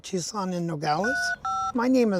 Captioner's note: phone buttons beeping